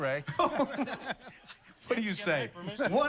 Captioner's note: laughs